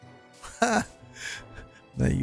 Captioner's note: laughs